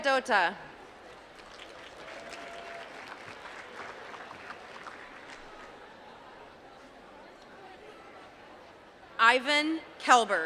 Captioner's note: applause